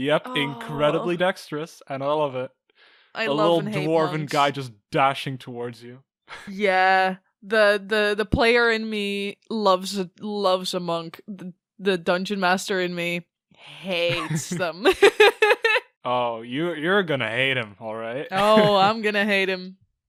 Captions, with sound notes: Yep! Incredibly dextrous. And I love it. I love and hate monks. A little Dwarven guy just dashing towards you. Yeah...the player in me loves a monk. The dungeon master in me hates them. (Laughs) Oh, you're gonna hate him alright. Oh, I'm gonna hate him.